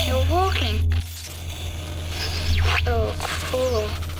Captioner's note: radar whooshing; robot buzzing